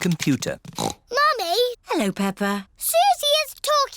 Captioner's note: snorts